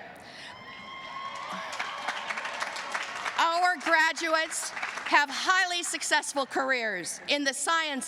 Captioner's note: cheers and applause